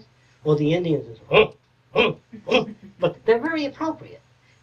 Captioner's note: grunting